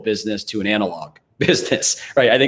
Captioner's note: chuckles